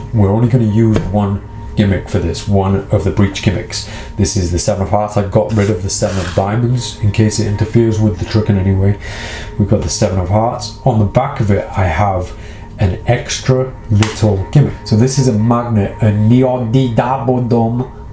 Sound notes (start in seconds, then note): 16.0 speaks in made-up language